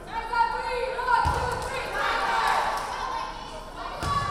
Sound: players chanting

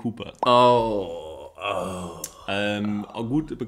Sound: moans

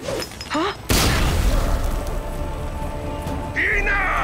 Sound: explosion

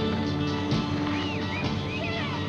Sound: children shouting and playing

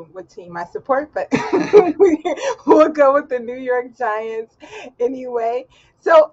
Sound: laughs

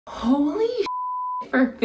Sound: beep

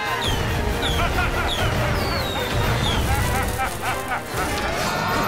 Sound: laughing; screaming

